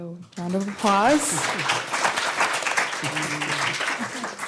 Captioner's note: applause